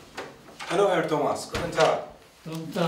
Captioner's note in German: Ibrahim mit starkem Akzent